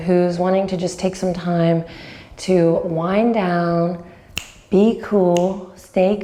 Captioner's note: snaps